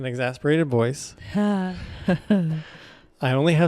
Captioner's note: laughs